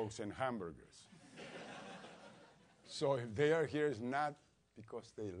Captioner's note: laugh